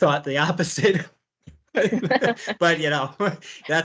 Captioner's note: laughter